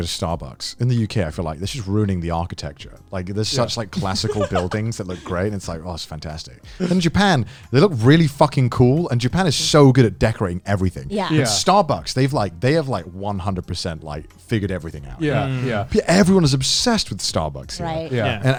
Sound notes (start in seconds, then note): 11.2 group agreeing; 15.2 group humming in agreement